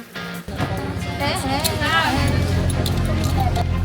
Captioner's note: nervous Laughter